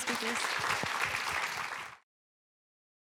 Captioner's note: applause